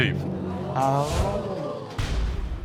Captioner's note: audience gasps